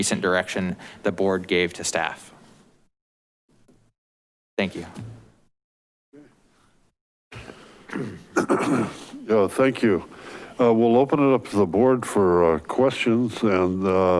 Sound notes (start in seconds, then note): 7.9 clears throat